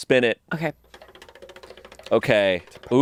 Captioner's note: wheel clicking